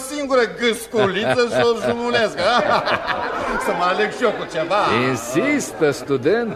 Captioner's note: laughter